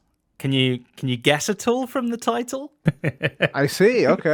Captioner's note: chuckles